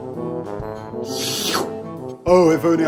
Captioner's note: licking lips